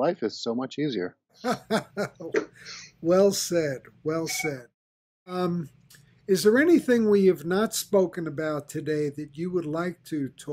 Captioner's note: laughs